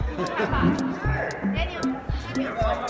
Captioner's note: chuckles